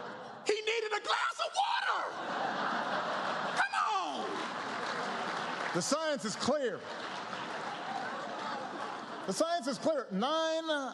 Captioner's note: laughter